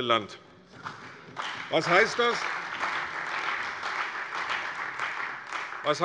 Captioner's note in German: Beifall bei der CDU und dem BÜNDNIS 90/DIE GRÜNEN